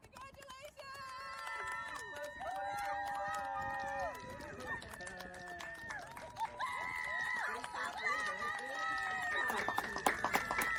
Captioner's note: clapping and cheering